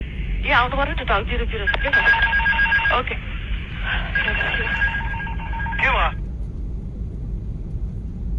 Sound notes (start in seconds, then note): 4.0 beeping stall warning and stick shaker